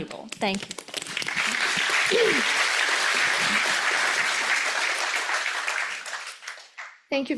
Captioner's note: audience applauds